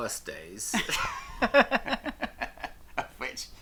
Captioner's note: both laugh